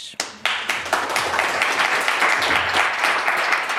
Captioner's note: applause